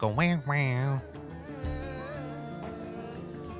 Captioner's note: imitates porno music